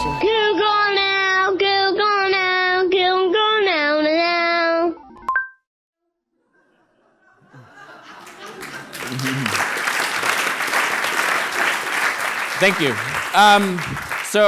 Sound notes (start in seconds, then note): 6.6 laughing; 10.0 applauding